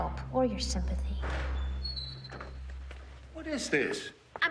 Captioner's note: door creaking